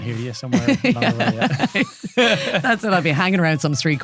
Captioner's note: laughing